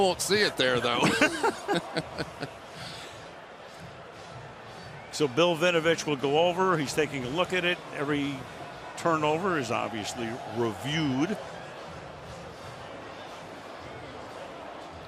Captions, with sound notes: I know you won't see it there, though. [laughter] So Bill Vinovich will go over. He's taking a look at it. Every turnover is, obviously, reviewed. [upbeat music]